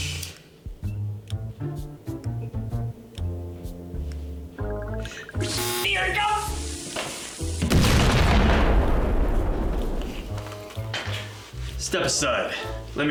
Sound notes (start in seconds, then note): 7.6 explosion